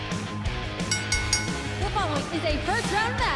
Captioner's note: bell ringing